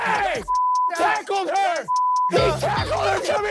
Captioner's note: beep